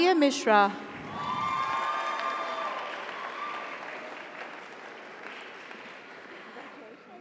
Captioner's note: audience cheers; audience applauds